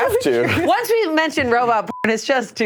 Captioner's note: beep